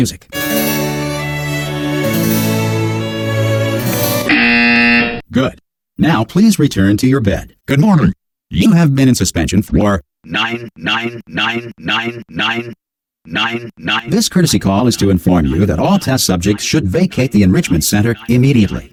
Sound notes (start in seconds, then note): 0.3 classical music; 4.2 buzzer